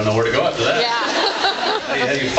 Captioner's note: laughs